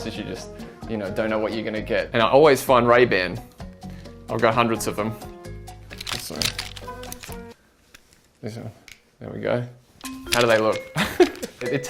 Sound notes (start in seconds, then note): 5.8 sunglasses clattering; 10.9 laughs